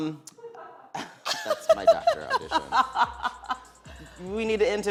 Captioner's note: laughter